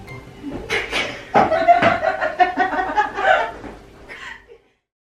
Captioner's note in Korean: ㅋㅋㅋㅋㅋㅋㅋㅋㅋㅋ